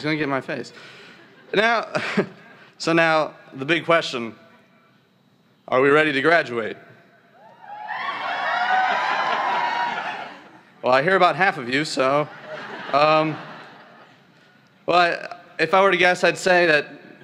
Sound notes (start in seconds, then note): 7.4 cheering; 12.2 laughter